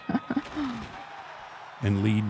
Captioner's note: laughing; crowd cheering; table breaking